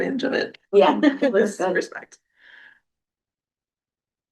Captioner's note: laughter